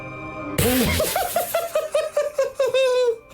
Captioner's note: laughing hard